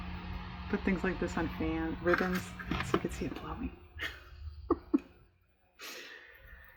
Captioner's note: laughs